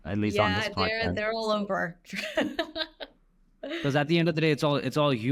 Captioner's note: chuckles